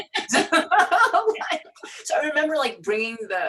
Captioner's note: laughs